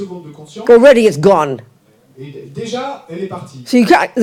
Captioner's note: audience member speaks in French